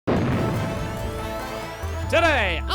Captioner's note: explosion